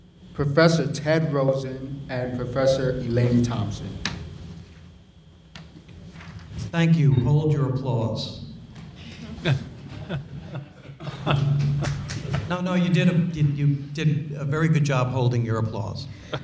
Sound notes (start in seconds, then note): 9.0 panel chuckles